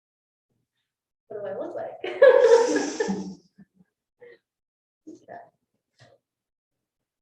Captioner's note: woman chuckling